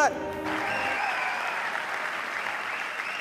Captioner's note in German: Jubel, Applaus